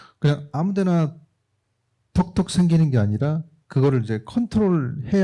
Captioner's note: speaking korean